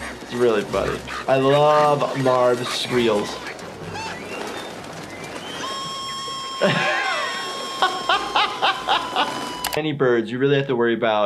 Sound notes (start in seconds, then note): 5.1 Marv screaming; 5.1 laughing